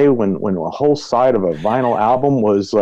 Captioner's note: laughs